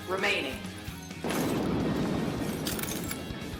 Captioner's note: thunder crack; glass grinding